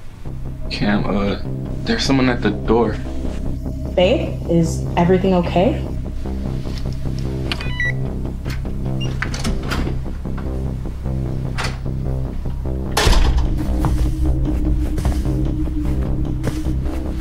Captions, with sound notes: Cam, uh, there's someone at the door. Babe, is everything okay? [Beeping] [Door unlocks] [Door closes] [Footsteps]